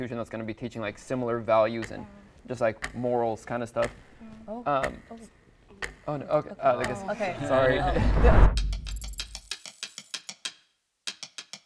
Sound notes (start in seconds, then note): 5.8 clock ticks; 7.2 group chuckle; 8.4 upbeat music